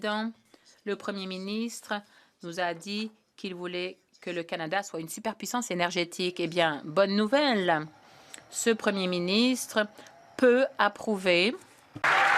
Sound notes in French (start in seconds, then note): 1.6 voix de l'interprète